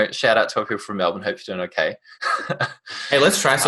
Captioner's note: laughs